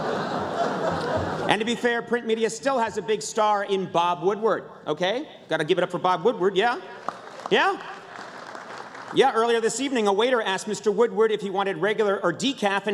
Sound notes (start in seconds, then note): 6.9 applause